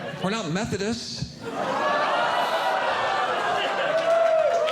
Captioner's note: audience Groaning; audience Laughing